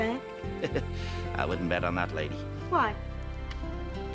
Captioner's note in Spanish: risas